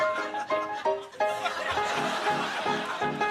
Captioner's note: laughter